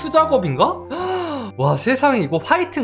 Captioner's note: gasps